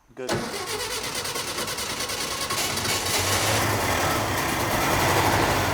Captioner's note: engine revs and starts, then dies